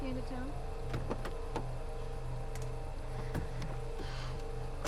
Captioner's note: door unlatching